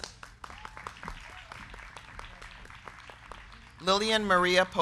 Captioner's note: crowd clapping